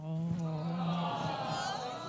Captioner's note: laughter